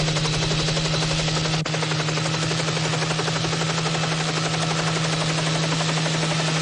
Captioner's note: helicopter